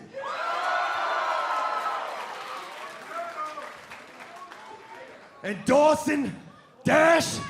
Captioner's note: cheers and applause